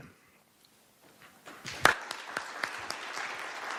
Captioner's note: applause